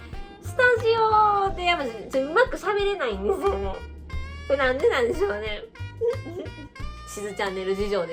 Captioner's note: laughs